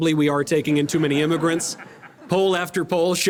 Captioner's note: audience laughter